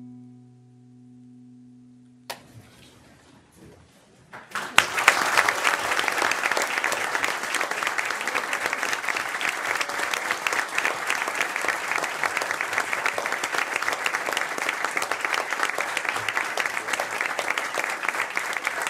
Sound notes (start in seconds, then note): 4.3 applause